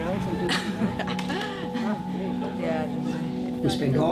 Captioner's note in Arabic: يضحك